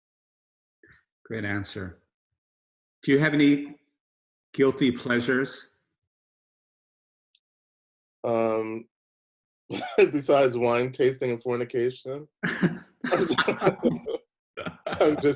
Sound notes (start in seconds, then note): 9.7 chuckles; 13.0 both laughing